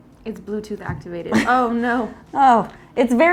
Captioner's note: giggling